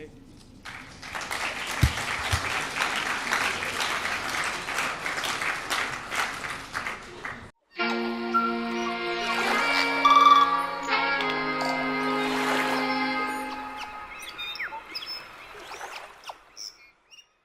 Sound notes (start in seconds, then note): 0.6 crowd clapping; 7.6 instrumental music; 14.3 birds squawking